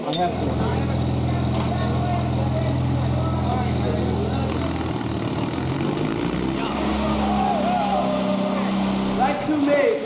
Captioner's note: vehicle motor, overlapping voices